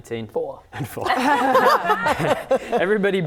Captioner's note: laughing